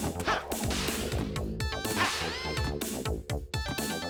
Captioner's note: gasp